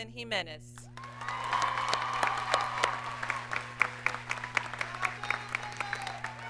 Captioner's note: audience cheers and applauds